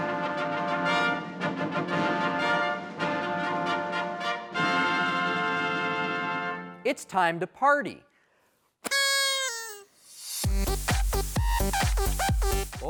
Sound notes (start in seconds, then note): 0.1 upbeat music; 8.8 party horn whistles; 10.3 upbeat music